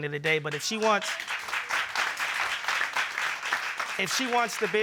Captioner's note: audience applauding